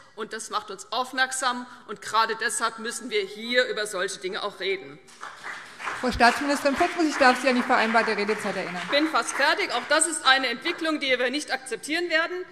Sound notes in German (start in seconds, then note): 5.1 Beifall CDU und BÜNDNIS 90/DIE GRÜNEN